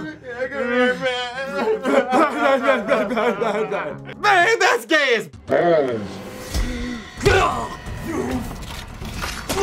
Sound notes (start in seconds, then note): 6.2 sudden gasp; 7.2 groans in pain